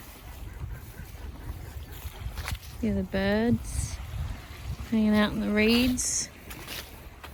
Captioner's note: ducks can be heard